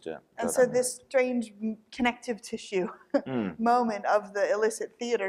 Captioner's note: chuckles